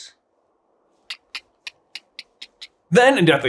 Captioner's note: tck tck tck tck tck tck tck tck